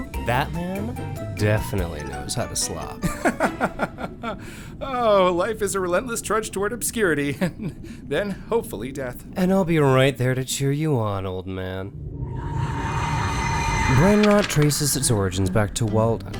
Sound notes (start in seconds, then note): 3.0 lorne laughs; 11.8 ghastly sounds swell